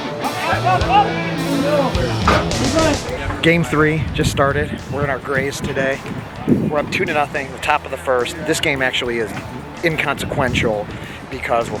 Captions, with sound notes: (cheering sounds) - Game three just started. We're in our grays today. We're up two to nothing in the top of the 1st. This game is actually inconsequential because